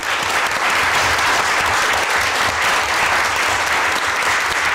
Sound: audience clapping

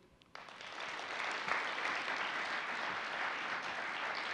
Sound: audience applauding

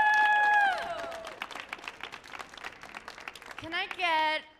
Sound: cheering; audience clapping

